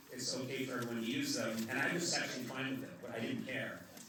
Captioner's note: none